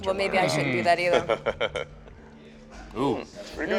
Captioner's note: chuckles